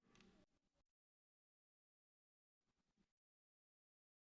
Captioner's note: audio cuts out